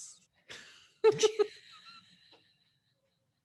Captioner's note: both laugh